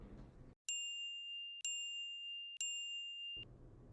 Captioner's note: timer chiming